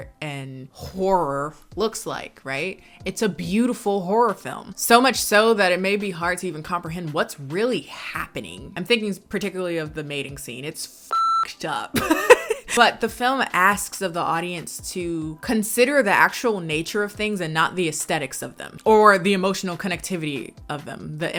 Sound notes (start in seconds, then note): 11.1 beep; 11.9 laughs